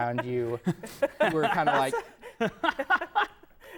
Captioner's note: laughing